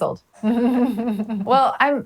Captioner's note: laughs